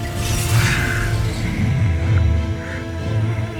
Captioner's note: sword swoosh; growls; music swells